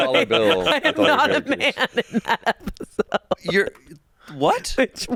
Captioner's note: laughs